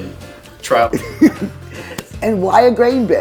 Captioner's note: chuckles